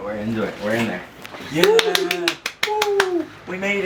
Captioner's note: claps and cheers